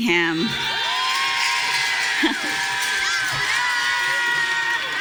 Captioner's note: audience cheering